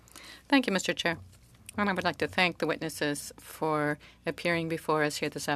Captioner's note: speaking French